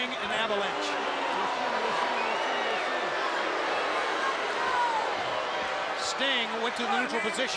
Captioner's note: crowd cheering